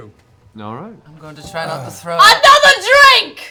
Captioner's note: yelling